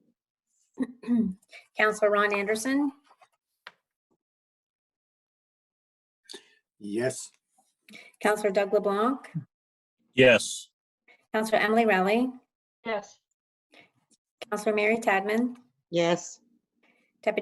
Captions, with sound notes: (clears throat) - Councilor Ron Anderson? - Yes. - Councilor Dough LeBlanc? - Yes. - Councilor Emily Rowley? - Yes. - Councilor Mary Tadman? - Yes.